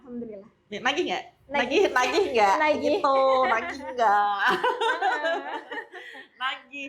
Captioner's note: laughs